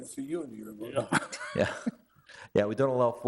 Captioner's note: chuckling